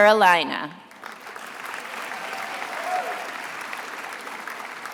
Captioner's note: attendees applauding